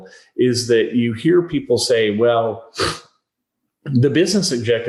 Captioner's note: sniffles